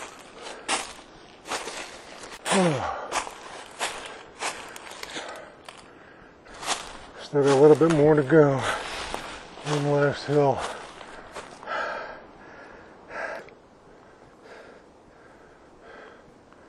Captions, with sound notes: *tired sigh* Still got a little more to go. One last hill.